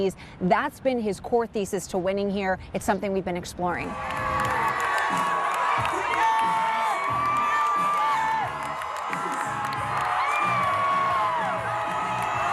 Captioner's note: cheering